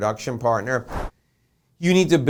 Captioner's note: air whooshing